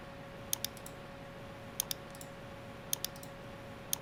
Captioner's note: mouse clicking